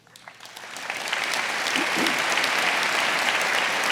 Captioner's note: audience applauding